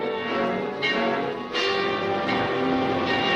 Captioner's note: bell dings